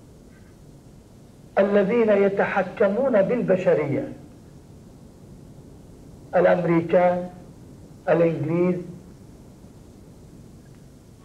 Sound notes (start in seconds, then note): none